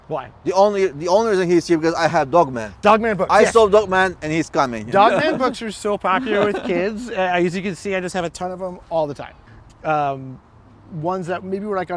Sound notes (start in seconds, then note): 3.3 güler